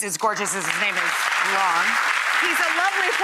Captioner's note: audience applauding